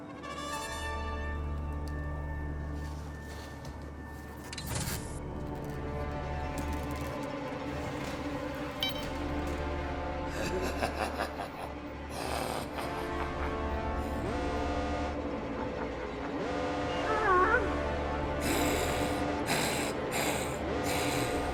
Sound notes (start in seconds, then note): 1.3 ominous music playing; 4.9 pneumatic door closing; 8.4 ominous music intensifies; 10.3 laughter; 14.5 alarm sound from machine